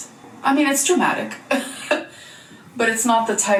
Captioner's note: chuckles